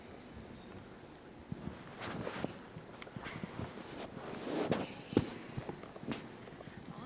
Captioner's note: mic shuffles